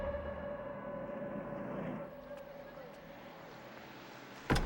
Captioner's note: car engines revving